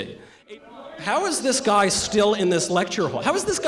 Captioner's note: protestor yelling